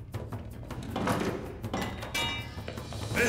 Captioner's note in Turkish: Kapı açılma sesi